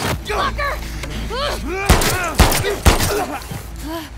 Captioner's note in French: bang, bang, bang